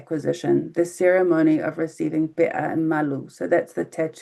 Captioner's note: speaking in foreign language